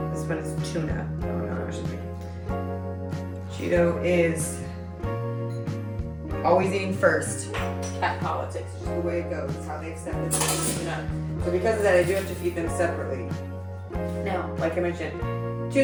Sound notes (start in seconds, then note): none